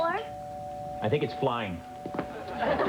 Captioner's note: doorbell rings